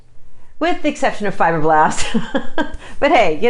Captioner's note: laughs